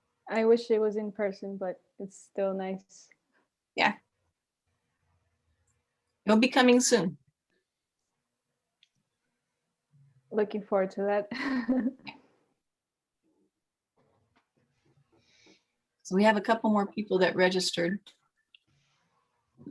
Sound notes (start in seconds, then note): 11.4 giggling